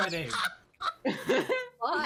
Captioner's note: laughs